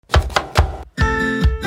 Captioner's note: thudding; bright music